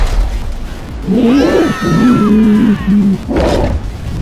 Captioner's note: dragon roaring; screaming